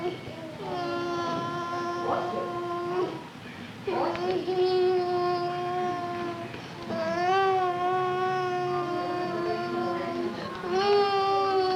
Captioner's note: crying